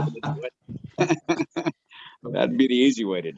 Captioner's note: participants laughing